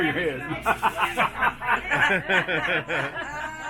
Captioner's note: laughing